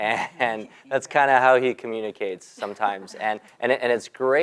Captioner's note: laugh; laugh